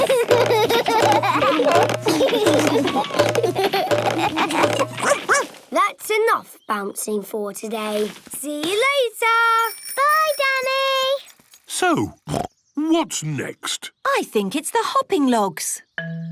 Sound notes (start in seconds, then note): 0.1 all laugh; 5.0 barks; 12.3 snorts